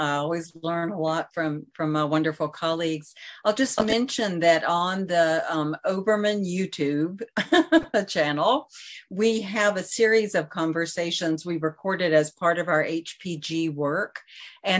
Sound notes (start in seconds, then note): 7.4 giggles